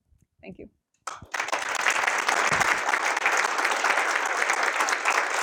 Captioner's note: applause